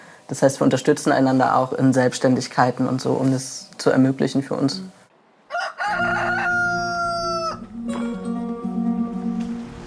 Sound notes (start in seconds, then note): 5.4 cockcrow